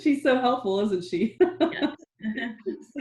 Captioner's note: laughing